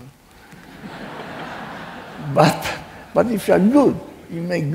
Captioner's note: laughing